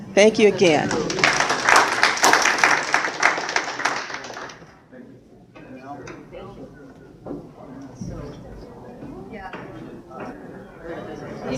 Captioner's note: applause